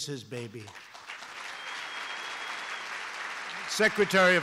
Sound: applause

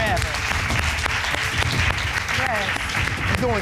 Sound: audience applauds

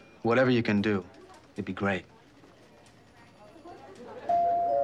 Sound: doorbell ringing

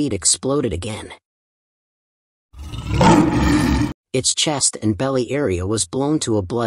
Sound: sound effect

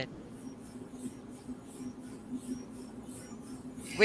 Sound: engine roaring

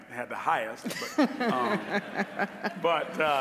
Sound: all laughing

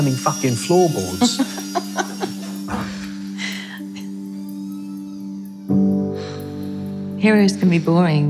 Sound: laughs

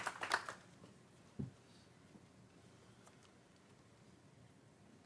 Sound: applause

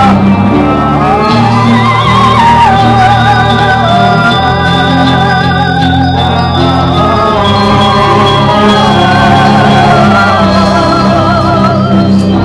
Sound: Council vocalizes

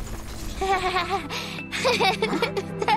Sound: starts laughing

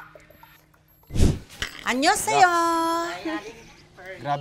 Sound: in Korean-ish

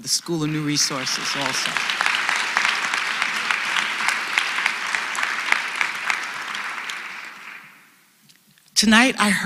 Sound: applause

